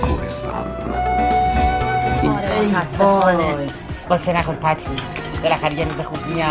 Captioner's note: Mimicking Spongebob